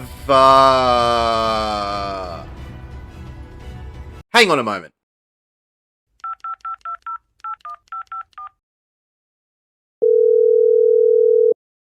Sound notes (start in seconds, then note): 4.3 music stops; 7.4 phone dialing; 10.0 phone ringing